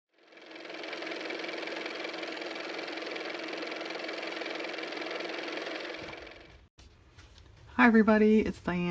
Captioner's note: car motor